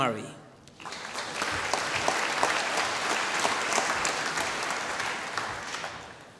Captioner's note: applause